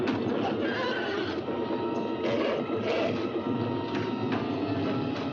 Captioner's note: banging; horse neighs and grunts; banging; suspenseful music